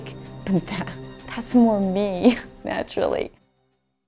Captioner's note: snickering